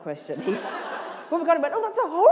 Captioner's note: laughter